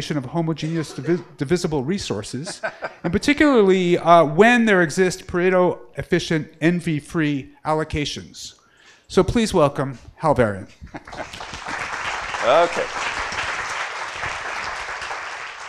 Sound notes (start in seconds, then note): 11.0 applause